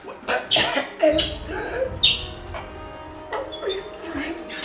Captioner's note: man coughing; tense music